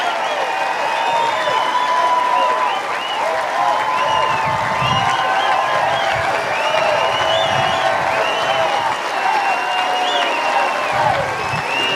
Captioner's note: cheers and applause